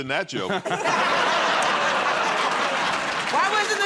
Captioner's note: laughter and applause